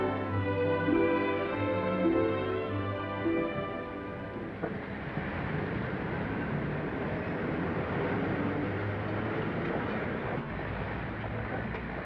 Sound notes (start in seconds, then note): 4.7 engines rumbling